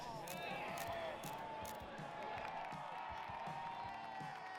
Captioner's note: crowd cheering